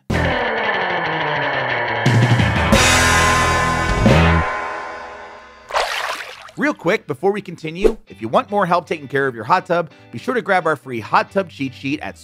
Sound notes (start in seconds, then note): 0.1 rock music; 5.7 water splashing